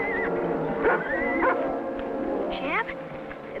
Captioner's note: horse whinnying